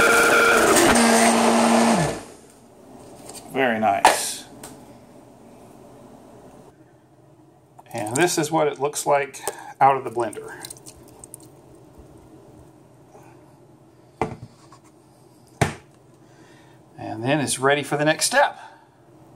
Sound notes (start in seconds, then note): 0.0 sound of blender; 2.0 blender stops